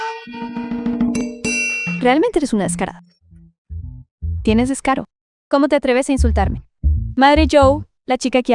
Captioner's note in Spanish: campana